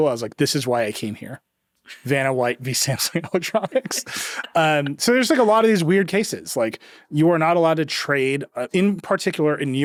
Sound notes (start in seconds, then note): 3.0 chuckles